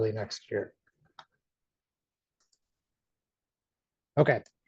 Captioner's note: mouse clicks